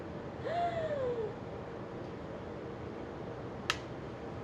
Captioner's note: gasps